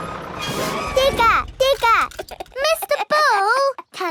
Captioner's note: chuckles